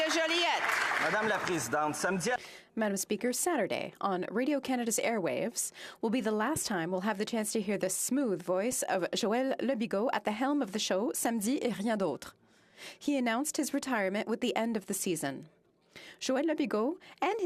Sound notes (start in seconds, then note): 0.0 some Applause; 15.0 speaking French